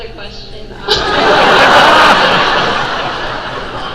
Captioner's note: crowd laugh